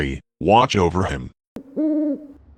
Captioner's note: owl hoots